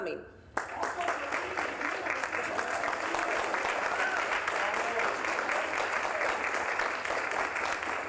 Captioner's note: applause